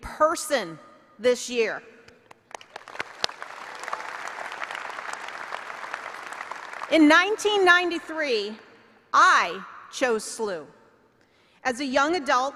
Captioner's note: applause